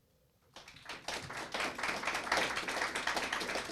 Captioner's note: applause